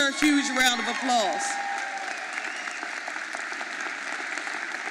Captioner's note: audience applauding